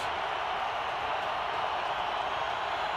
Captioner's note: crowd cheering